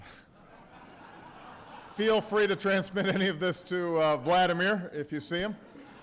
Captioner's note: laughter